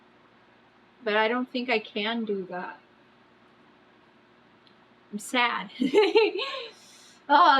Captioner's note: laughs